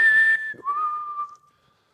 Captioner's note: whistles